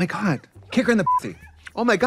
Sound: beep

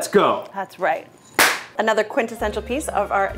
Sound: whack

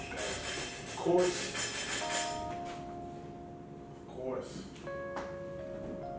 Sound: door Bell Ringing; door Bell Ringing

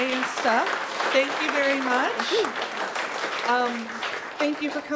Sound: audience applause

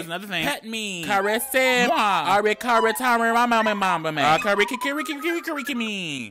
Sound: man speaking gibberish

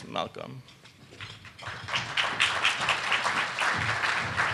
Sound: audience clapping

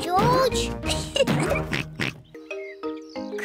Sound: laughs; oinks

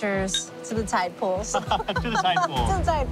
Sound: laughs

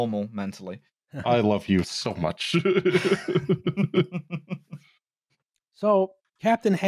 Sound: laughs lovingly

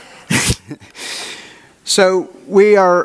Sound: audience laughs

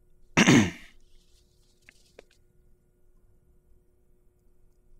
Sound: Nathan clears throat

